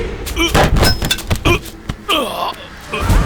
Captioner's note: grunts